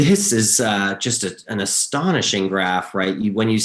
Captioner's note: chuckles